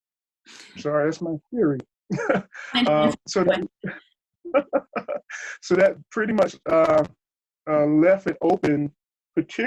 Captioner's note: laughs